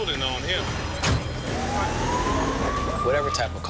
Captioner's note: siren wails